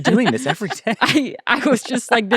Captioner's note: laughing